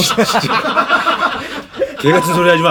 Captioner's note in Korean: 웃음